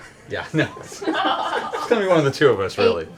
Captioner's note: laughter